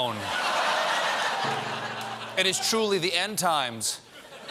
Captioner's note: laughter